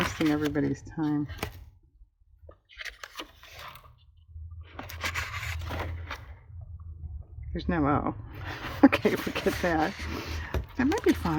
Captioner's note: laughs